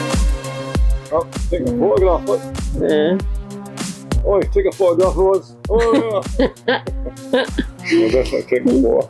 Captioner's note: laughter